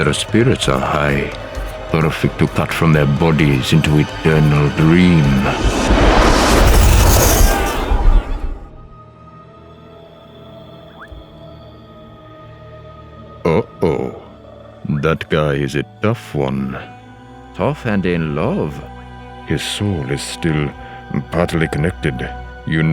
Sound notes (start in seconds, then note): 6.8 whooshing; 8.9 crickets chirp; 8.9 eerie music